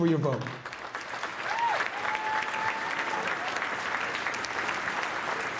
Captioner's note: audience cheering and clapping